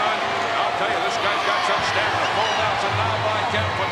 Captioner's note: crowd boos